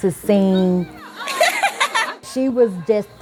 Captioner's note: girl laughs